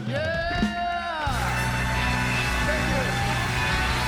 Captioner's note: audience applauding